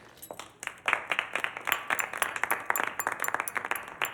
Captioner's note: crowd clapping